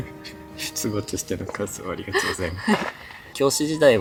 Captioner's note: laughs